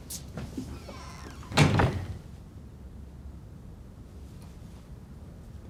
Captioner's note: door creaks and slams